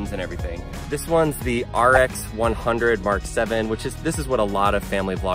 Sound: air whooshing

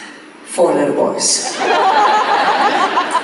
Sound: audience laughs

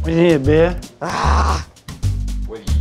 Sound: growls

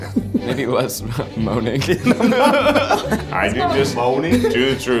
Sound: laughing

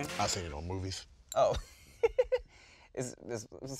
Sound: laughs

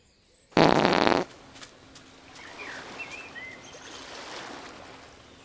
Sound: silence; farting noise and villager walks away

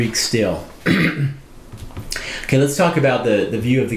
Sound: preacher clearing throat

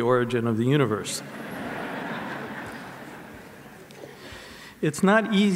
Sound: audience laughs

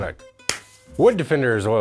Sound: hands clap

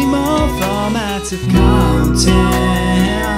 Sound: phone vibrates

